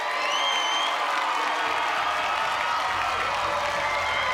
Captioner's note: cheers and applause